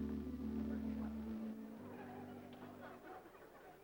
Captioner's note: laughter and chatting